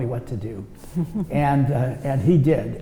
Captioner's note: laughs